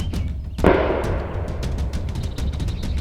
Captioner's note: gunshot